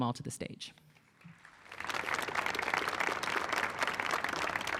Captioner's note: audience clapping